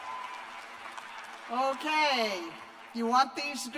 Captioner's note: cheers and applause